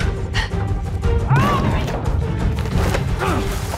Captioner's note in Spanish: Gritos y exclamaciones